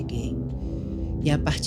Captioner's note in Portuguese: sibilo do vento